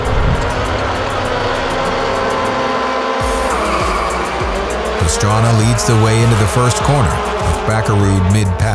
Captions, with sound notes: (car revving) Pastrana leads the way into the first corner with Bakkerud mid pack.